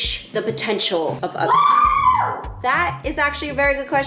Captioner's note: voice screaming